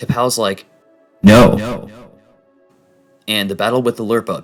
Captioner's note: echoing